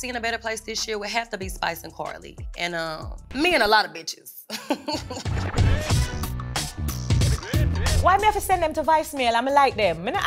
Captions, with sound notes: in a better place this year would have to be Spice and Karlie. And me and a lot of bitches. (chuckles) (uptempo beat music) - Why me have to send them to voicemail. I'ma like them.